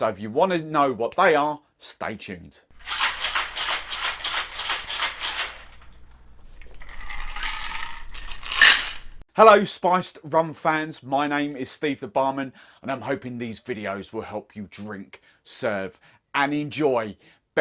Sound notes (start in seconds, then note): 3.0 cup shaker shaking; 6.4 drink being poured